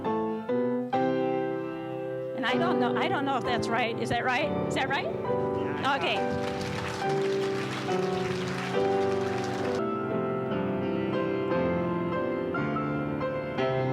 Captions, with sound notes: I don't know if that's right. Is that right? - Yeah. - Okay. (applause) (piano music)